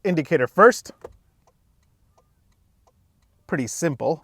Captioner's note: indicator clicking